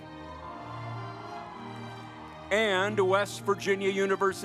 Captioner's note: audience applauds